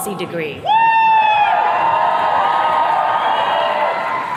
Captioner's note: attendees cheering